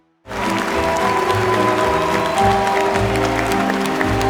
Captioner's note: audience applauding